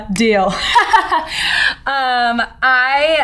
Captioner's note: laughs